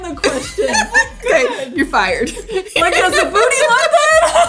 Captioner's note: laughs